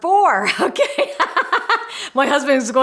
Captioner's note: laughs